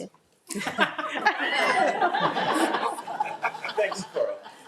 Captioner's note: audience laughing